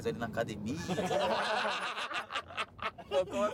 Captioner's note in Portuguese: risos